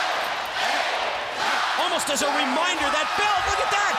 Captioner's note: crowd cheering